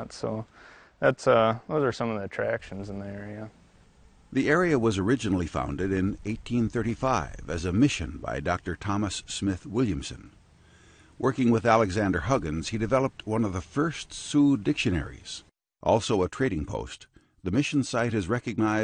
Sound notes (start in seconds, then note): 4.2 voiceover